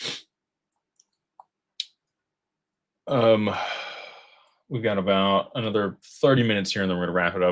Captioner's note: snorts; sighs